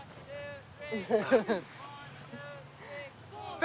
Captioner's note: laughing